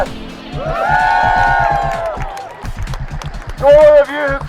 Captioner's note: cheering